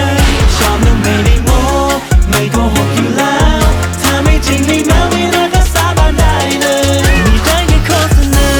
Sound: sound of thunder; meow sound

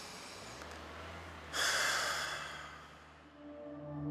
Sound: sighs

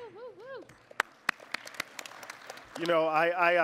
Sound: audience applause

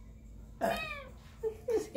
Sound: burps

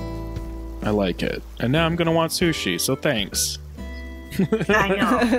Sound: laughter

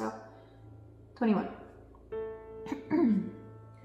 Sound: clears throat

